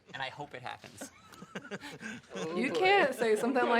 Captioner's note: laughing